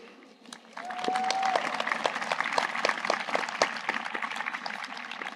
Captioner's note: audience applauding